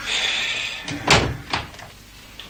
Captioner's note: sighs